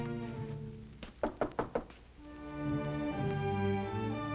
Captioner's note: knocking